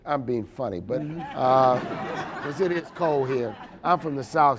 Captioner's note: audience laughing